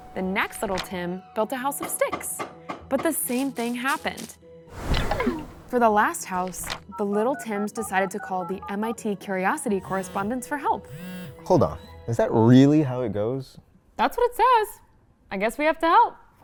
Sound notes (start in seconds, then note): 10.8 phone dialing sounds